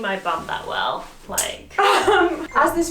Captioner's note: laughs